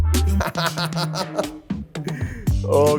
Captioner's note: laughs